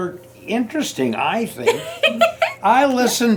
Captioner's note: laughs